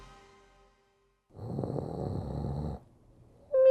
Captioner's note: snoring; Shemp-like sleep noises